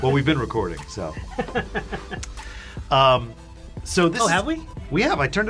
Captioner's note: laughs